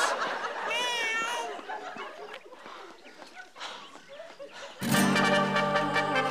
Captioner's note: crying baby